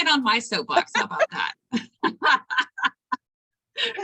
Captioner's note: laughter